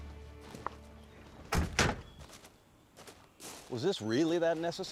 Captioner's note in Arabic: تغلق أبواب السيارة